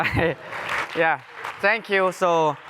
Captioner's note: laughs